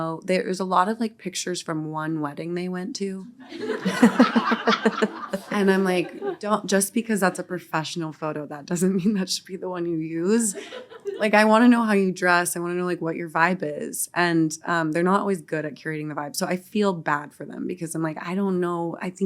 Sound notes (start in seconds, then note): 3.4 audience laughing